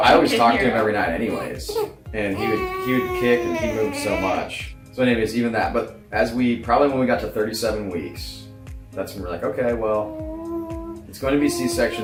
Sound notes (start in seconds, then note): 2.3 crying